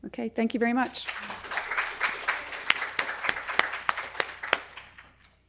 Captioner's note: applause